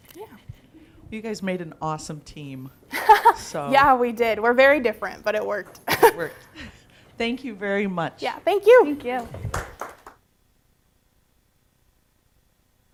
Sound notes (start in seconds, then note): 9.5 audience applause